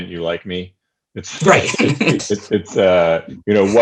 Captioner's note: laughing